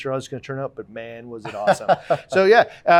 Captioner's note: laughing